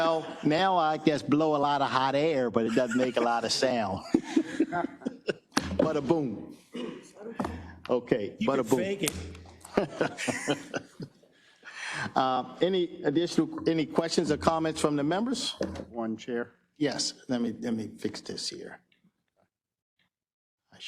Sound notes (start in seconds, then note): 0.0 laugh; 2.6 laugh; 9.7 laugh